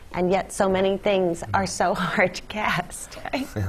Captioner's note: laugh